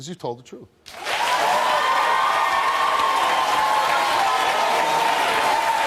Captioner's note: audience applauding, cheering